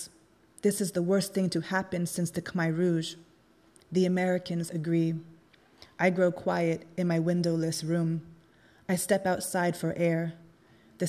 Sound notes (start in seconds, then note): none